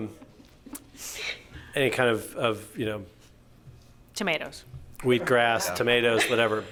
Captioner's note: laughter